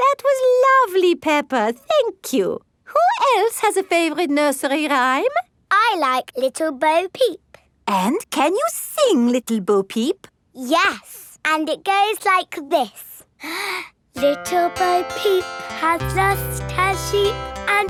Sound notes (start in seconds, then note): 13.4 inhales